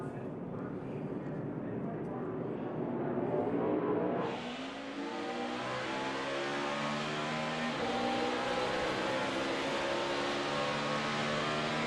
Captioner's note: engines roar